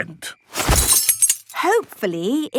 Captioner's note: clang-ruffle-thump